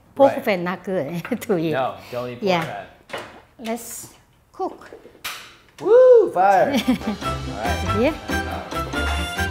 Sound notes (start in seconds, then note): 6.7 laughs